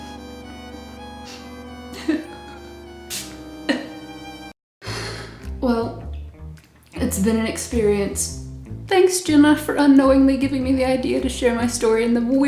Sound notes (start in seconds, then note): 4.8 sigh